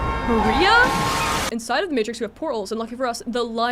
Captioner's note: car crash